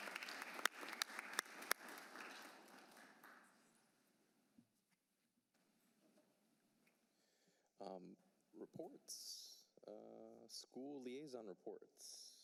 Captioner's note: applause